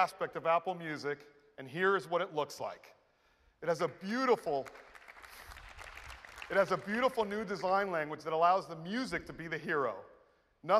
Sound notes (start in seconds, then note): 4.2 applause